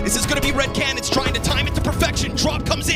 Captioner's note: explosion booming